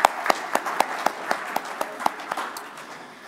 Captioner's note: applause